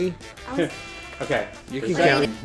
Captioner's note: laughs